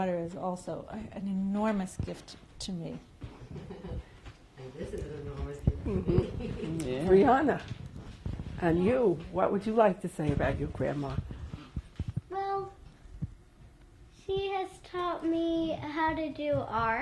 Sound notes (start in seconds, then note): 3.4 laughs